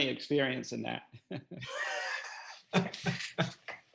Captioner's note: laughing